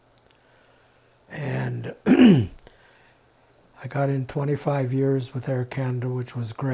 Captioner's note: clears throat